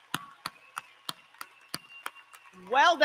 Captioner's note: applause